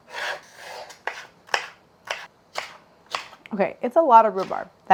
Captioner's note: chopping